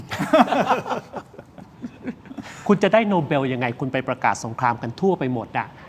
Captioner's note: laughs